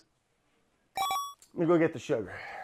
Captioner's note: video game sound effect